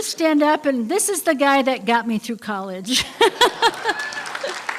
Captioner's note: laughter; applause